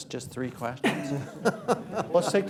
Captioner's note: laughter